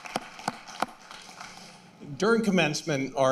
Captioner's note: applause